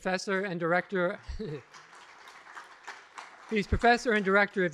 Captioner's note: applause